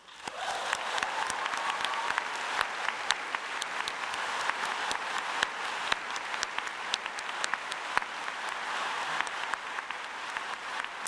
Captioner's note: applause